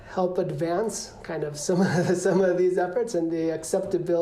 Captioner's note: laughter